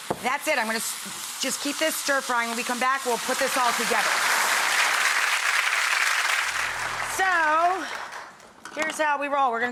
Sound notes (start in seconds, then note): 3.4 audience applauding